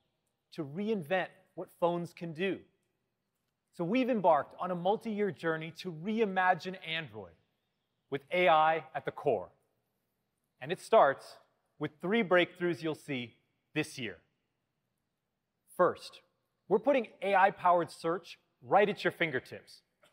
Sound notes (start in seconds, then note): none